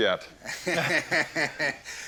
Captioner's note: laughter